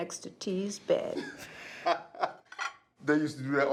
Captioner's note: Eric laughs